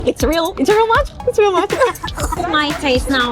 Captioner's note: laughs